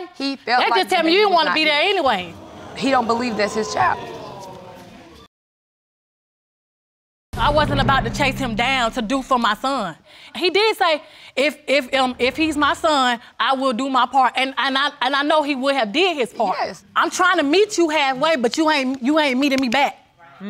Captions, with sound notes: That tells me that he didn't want to be there anyway. He didn't believe that's his child. (AUDIENCE GASPS) I wasn't about to chase him down to do for my son. He did say, "If he's my son, "I will do my part." And I know he would have did his part I'm trying to meet you halfway but you ain't meeting me back.